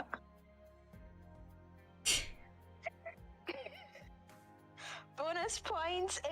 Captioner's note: laughing, one in confusion one in scuff